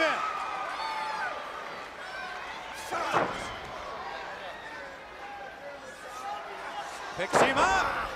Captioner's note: crowd chatter